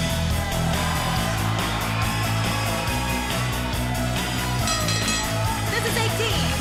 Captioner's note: cheers and applause